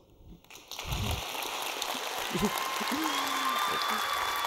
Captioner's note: applause; cheers